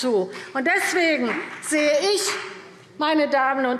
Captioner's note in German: Beifall BÜNDNIS 90/DIE GRÜNEN